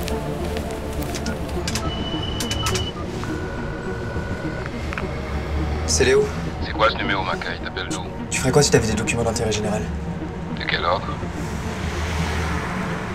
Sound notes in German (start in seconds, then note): 1.6 Eine Nummer wird gewählt; 3.4 Klingeln